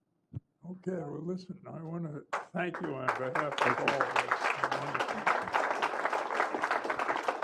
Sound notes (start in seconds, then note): 2.3 applause